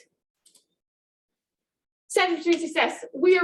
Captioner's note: mouse clicking